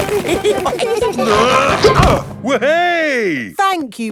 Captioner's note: all giggling; grunting